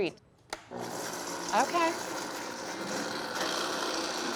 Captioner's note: vitamix whirring